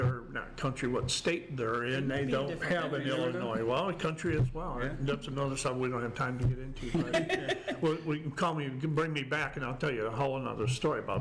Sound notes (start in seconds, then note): 6.8 group laughs